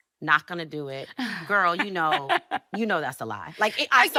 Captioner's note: laughing